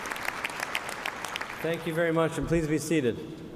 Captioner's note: applause